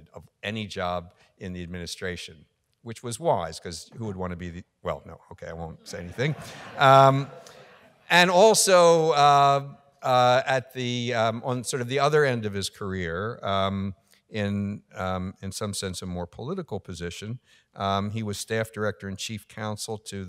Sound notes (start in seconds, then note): 6.0 laughing